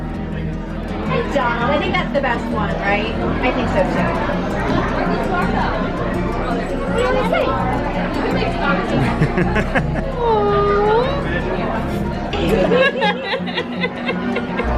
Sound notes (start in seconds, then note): 8.9 laughs; 12.3 laugh